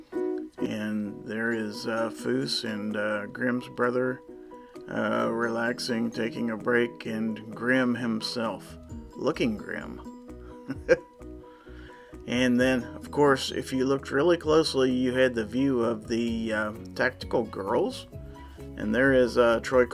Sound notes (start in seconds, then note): 10.6 chuckles